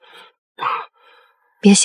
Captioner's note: cough